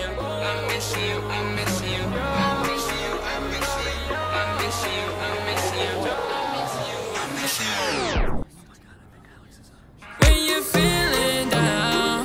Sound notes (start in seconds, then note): 8.0 music screeching stop; 9.1 whispered